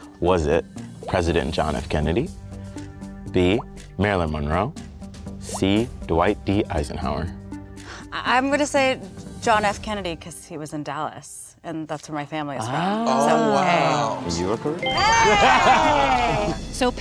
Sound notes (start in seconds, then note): 15.1 twinkling